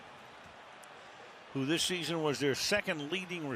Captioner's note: crowd boos